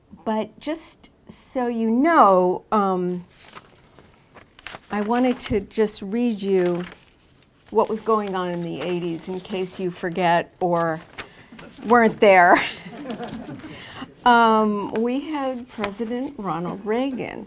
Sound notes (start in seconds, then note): 12.5 laughter